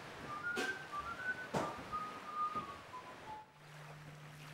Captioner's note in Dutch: Hij fluit